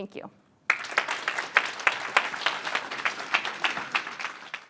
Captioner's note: audience applauds